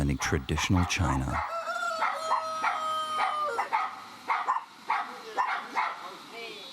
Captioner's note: dog barking; cock crows